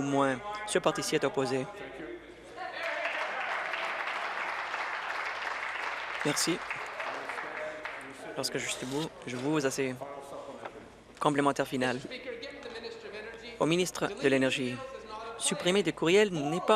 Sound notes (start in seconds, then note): 6.2 applause